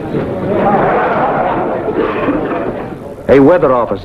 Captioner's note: men chattering